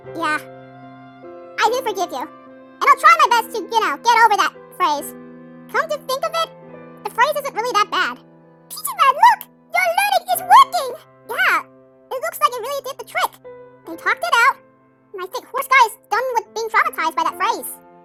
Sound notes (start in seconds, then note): none